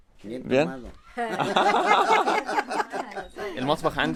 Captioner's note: laughter